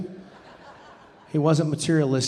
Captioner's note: audience laughing